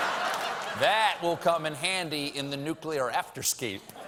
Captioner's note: laughter